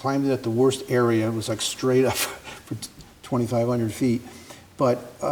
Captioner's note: chuckles